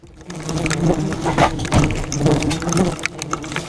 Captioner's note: buzzing; wasps tapping against camera